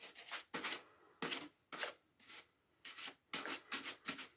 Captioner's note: brush scratching